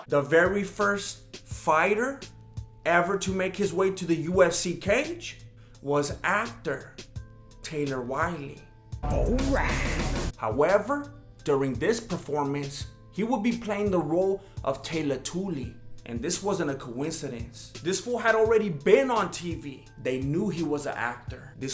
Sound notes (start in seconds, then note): 9.2 misquoted Kool-Aid Man noises